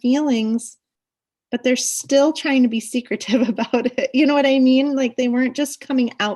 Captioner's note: laughs